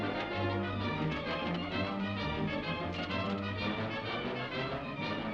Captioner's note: horse hooves clopping; dramatic music